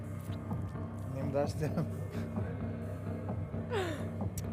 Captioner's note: laughs